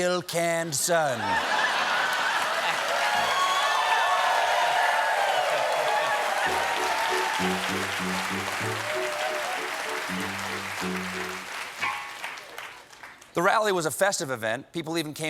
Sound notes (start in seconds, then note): 1.9 applause; 2.6 laughter